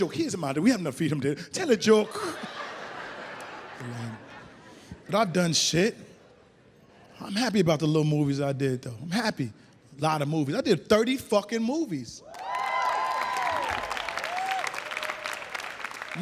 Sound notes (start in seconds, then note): 2.0 audience laughs; 12.3 audience applauds